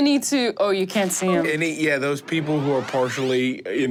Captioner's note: computer beeps; engine powering up